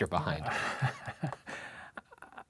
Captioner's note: chuckles